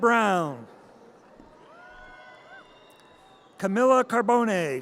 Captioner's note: audience cheers